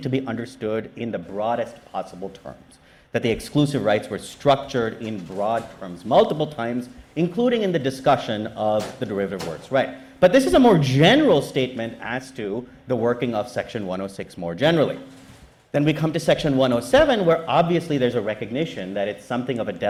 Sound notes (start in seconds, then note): none